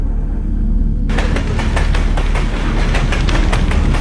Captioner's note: spacecraft rattling; flames whooshing